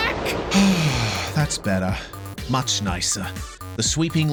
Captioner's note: sigh